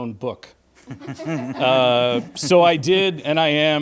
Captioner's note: panelists laughing